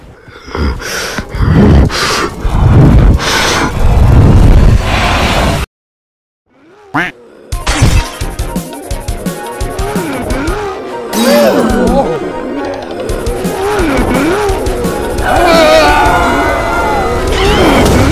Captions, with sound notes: *Frustrated Breathing* Mph!! *All Gasp* *Furious Screaming* *All Screaming* GAAAAAAH!